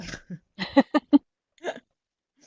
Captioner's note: laughter